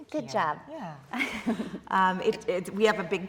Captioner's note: laughing